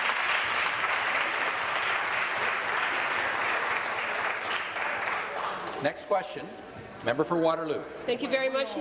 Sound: voice trailing; applause

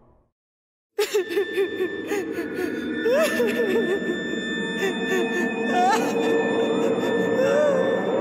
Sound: weeping

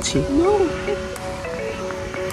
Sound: bees

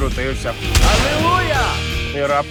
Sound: gun fires

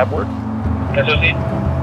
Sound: radio beep

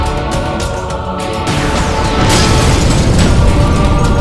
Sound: car explodes

